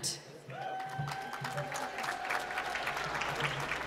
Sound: applause

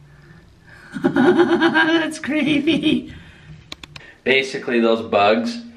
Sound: laughs

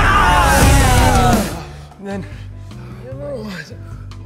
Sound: faltering

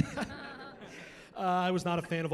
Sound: chuckling

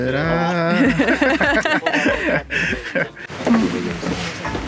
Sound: laughing

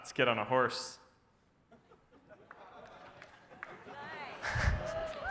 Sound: audience laughs and claps

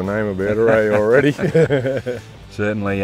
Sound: laughs

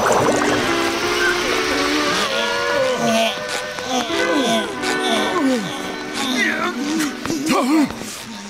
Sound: grunting

